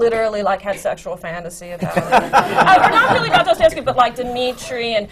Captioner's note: laughter